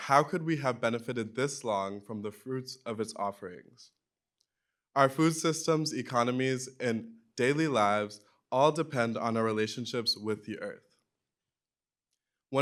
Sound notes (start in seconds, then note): none